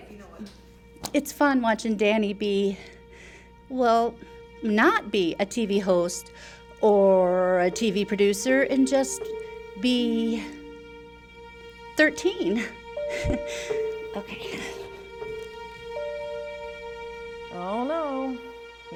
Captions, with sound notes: It's fun watching Danny be ... well, NOT be a TV host... oooor a TV producer ... and just be ... 13. (laughs) OK... (serious music) Oh no, here we go.